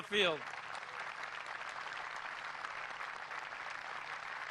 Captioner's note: applause